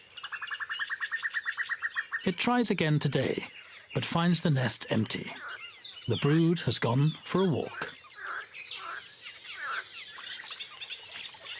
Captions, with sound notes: It tries again today, but finds the nest empty. The brood has gone for a walk. (toads croaking)